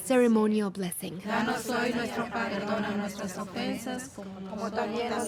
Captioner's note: speaking Spanish